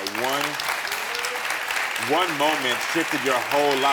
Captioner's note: audience clapping